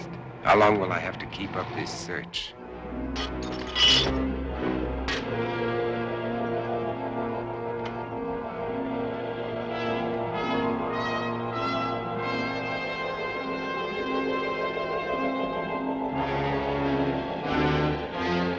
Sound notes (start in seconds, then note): 3.2 glass clatters